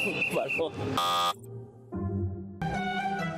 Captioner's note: buzzer blares